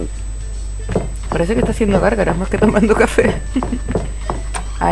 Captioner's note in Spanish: risas